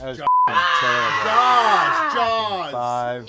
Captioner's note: beeping; louder roaring